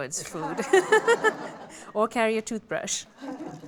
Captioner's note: laughter